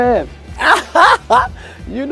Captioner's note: laughing